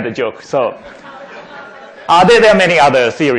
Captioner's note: laughing